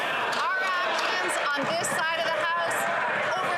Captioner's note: some Applause